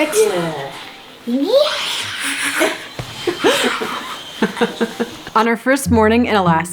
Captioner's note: cheering